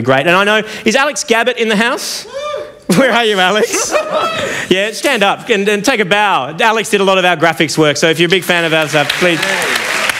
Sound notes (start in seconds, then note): 2.9 cheers